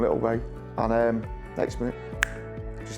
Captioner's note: snaps fingers